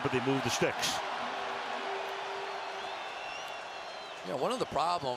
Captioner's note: cheering